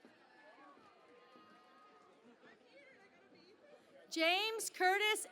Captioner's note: cheering and Applause